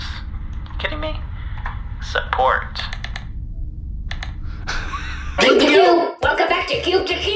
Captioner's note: Missionator chimes; music sting